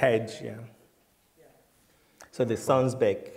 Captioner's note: voiceover